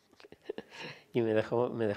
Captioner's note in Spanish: ríe